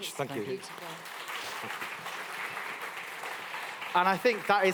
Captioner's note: applause